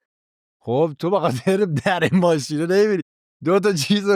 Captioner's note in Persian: خنده